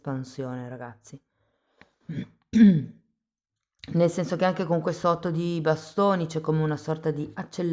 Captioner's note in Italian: schiarire la voce